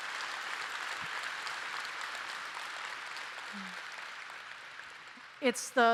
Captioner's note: applause